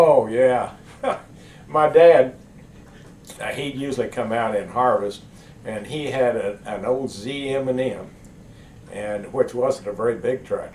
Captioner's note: laughs